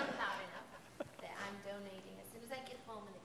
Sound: laughs

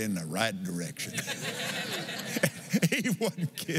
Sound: laughs

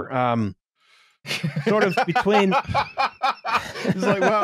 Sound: gets the joke and laughs considerably

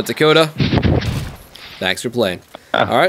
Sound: shoots gun

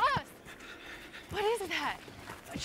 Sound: distant rumble

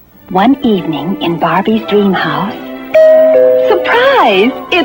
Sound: doorbell

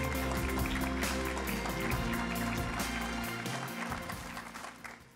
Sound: audience applauds; upbeat music

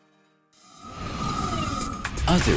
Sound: whooshes

